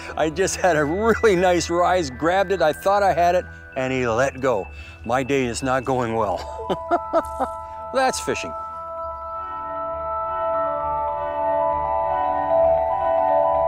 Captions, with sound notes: I just had a really nice rise, grabbed it, I thought I had it, and he let go. My day is not going well. (laughs) That's fishing. (ethereal music)